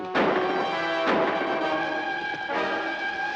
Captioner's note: gun firing; dramatic music